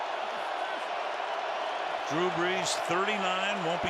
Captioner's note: cheering